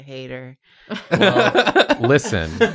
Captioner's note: laughter